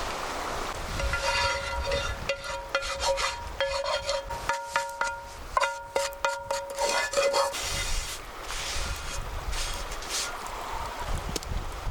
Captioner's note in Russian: гремящая посуда